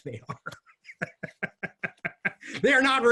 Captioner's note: laughs